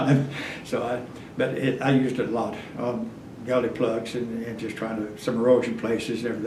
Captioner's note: laughs